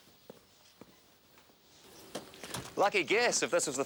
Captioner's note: footsteps tapping